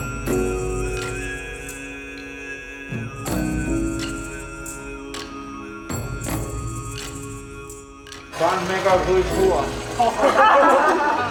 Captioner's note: laughter